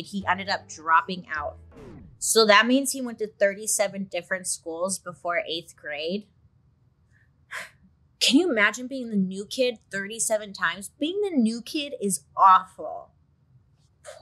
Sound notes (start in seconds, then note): 1.7 record scratches